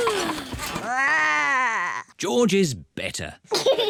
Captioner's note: growls; yawns; giggles